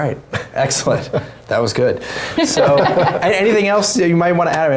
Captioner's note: laugh; laugh